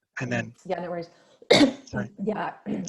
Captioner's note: coughs